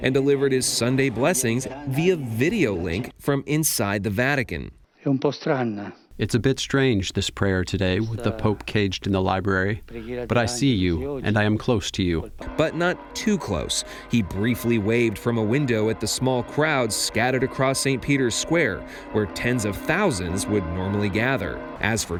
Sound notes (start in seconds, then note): 5.9 through translator